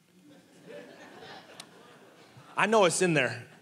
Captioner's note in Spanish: congregación riendo